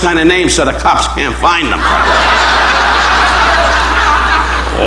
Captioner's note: audience laughing